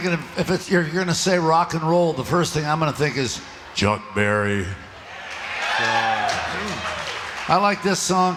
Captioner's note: crowd Cheers